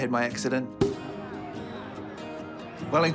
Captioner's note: cork pops